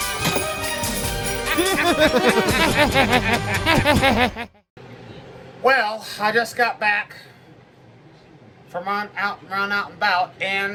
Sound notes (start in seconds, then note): 1.4 laughs